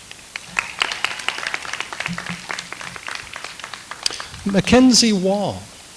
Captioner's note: audience applauds